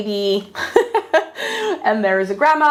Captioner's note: laughs